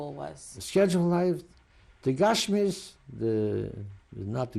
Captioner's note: non-english